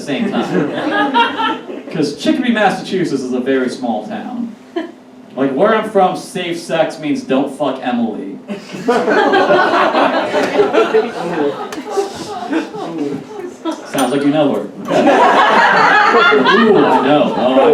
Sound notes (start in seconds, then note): 0.2 audience Laughs; 8.6 audience Laughs / Groans; 12.5 audience Laughs